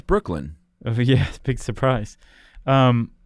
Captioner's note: laughs